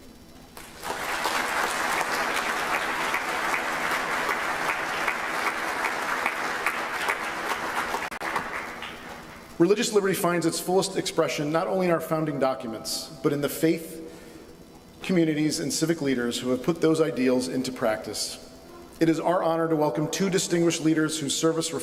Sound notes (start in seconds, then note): 5.3 applause